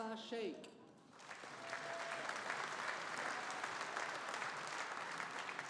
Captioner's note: audience applauding